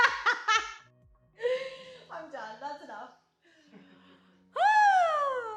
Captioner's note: bad laughter